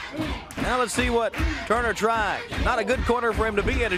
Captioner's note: crowd cheering